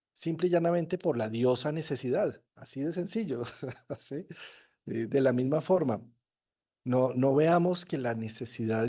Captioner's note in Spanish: risas